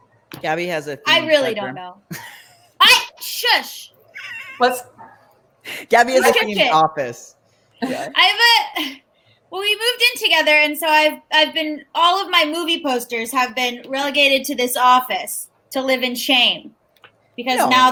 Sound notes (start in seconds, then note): 4.1 laughs